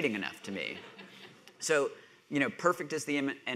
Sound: audience laughing

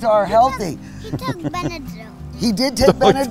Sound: laughs loudly

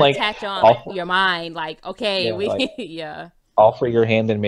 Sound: laughs

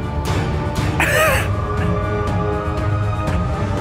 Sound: chuckles; ominous music

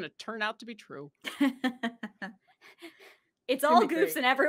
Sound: laughs

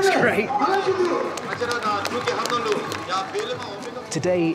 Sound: applause

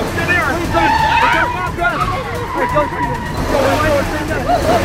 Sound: tyres squeal; makes siren noise

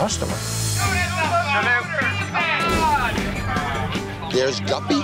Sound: raucous chatter

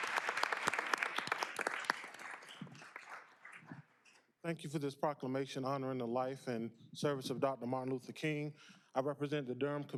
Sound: applause

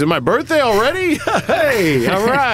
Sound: laughs

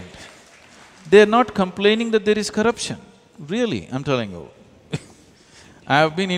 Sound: laughs

